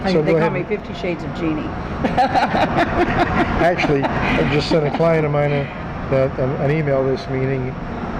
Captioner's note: laughs